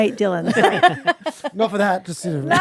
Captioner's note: all laughing